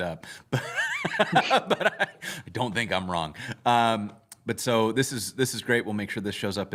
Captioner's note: laughter